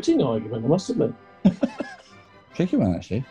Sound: chuckling

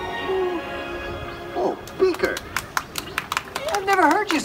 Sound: audience claps

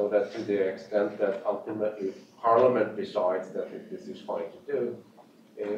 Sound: off mic

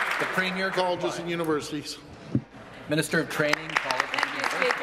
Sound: applause

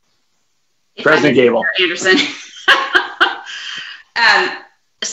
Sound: laughs

